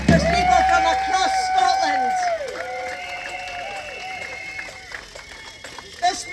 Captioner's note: cheering